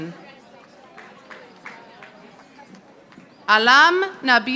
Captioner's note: audience applauding